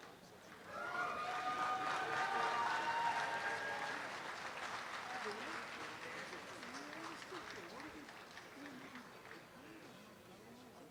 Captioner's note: students clapping and cheering